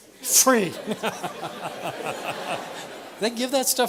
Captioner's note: laughs